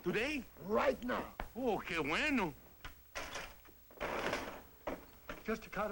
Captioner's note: non-english speech